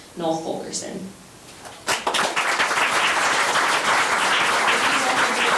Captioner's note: members applauding